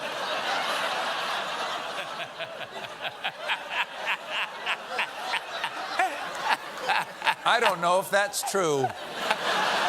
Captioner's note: laughter